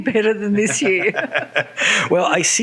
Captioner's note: laughter